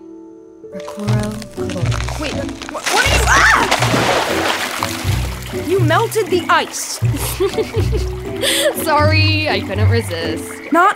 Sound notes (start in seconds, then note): 2.8 screaming, Loud splash; 7.1 giggling